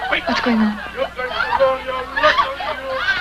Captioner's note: screaming